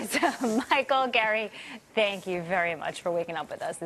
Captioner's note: laughter